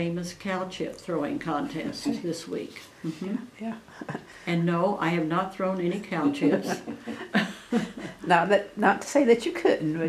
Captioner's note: laughter